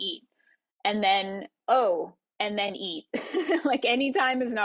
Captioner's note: laughs